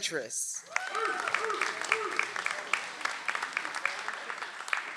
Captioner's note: audience applauds